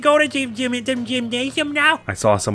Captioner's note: stammers